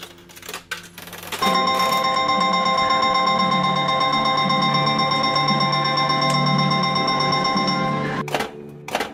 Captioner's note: loud sound of slot machine